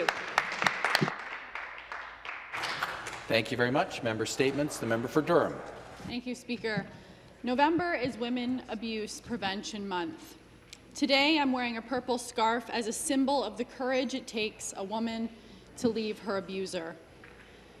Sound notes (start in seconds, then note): 5.3 some Applause